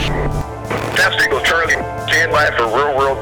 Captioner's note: voiceover